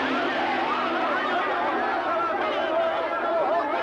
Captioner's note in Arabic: تحطم الجرس